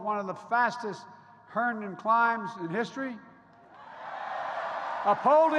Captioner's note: applause